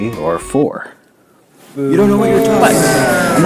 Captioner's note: jeers